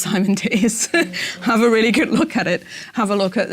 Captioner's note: laugh